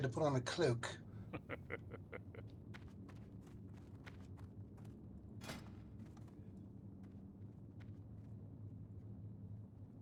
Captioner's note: laughs